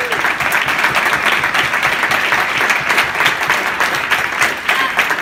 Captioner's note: applause